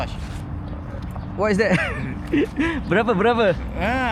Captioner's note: laugh